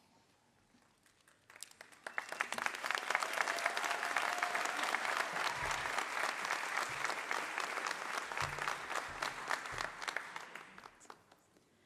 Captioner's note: applause